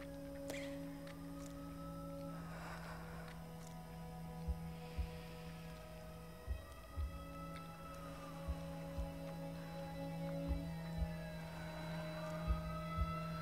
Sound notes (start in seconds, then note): 0.6 police sirens wailing; 5.6 dramatic music; 5.6 heart beating